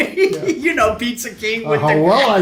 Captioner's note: both laugh